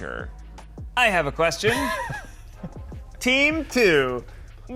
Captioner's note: Eugene laughs